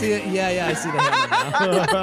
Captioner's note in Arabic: تضحك; يضحك